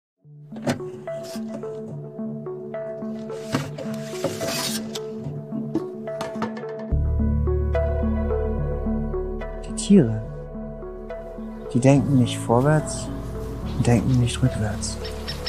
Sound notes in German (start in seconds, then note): 9.1 Männliche Stimme ist zu hören